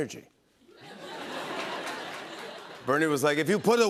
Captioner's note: laughter